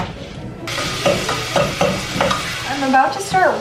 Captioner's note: stove top sizzling